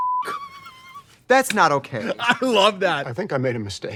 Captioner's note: beep; laughing